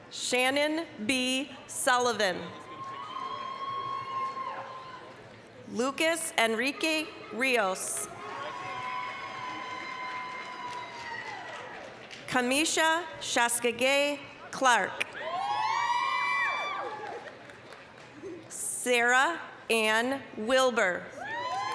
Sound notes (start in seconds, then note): 2.6 applause, cheering; 8.0 applause, cheering; 15.1 applause, cheering